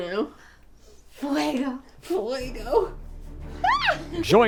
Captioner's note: speaking in foreign language